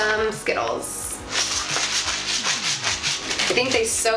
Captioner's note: rattling